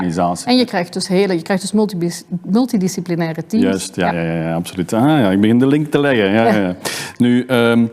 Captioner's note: laughs